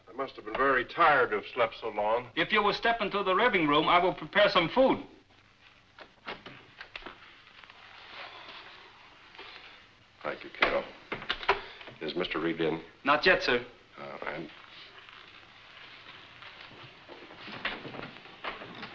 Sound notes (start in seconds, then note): 14.0 Fulton mumbles